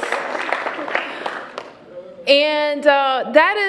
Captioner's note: cheers and applause